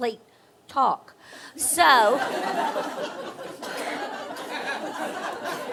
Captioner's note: audience laughing